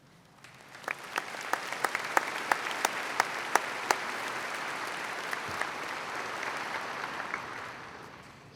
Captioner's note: applause